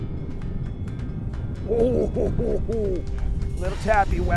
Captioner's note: chuckles